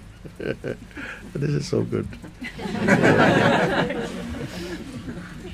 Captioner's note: laughter